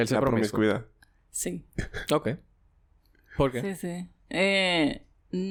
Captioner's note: laughs